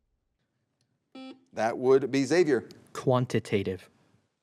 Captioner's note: buzzer beeps